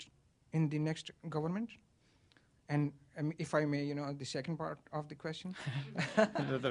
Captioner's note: laughter